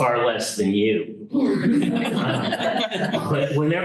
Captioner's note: laughter